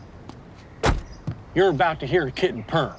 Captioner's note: door thuds